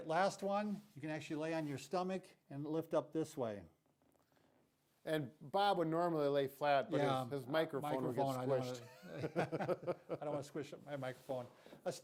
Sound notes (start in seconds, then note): 8.8 laughing